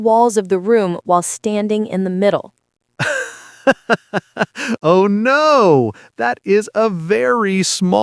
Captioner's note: laughing